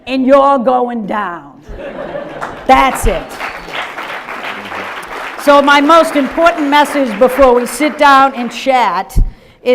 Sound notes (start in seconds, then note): 2.8 audience applause